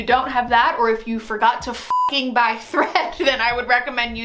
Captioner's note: beep